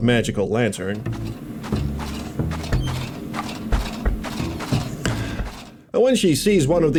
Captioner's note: lantern clanks loudly